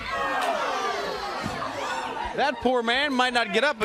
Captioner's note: crowd cheering